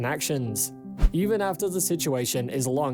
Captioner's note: screen swishes